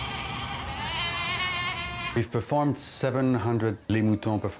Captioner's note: baaing